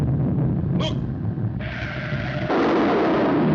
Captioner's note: comet roars; tires screeching